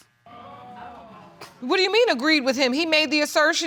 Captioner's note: audience exclaims